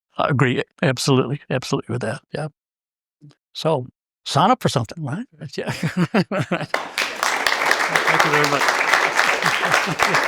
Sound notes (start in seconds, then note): 5.7 laugh; 6.6 applause